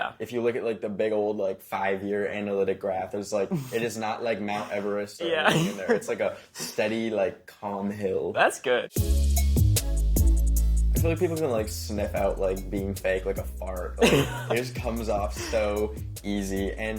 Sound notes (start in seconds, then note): 4.5 laughs; 9.6 hip hop music continues; 14.0 laughs